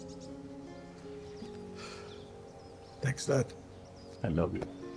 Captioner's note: sighs